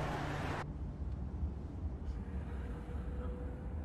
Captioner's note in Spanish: Ruido del motor